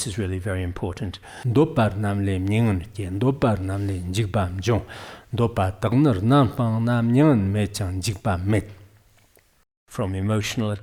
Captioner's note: giving oral transmission in Tibetan